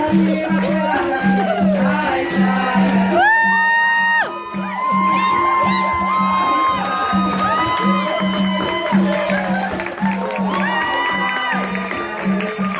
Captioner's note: cheering, clapping